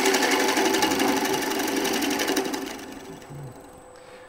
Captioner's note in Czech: Zvuk soustružení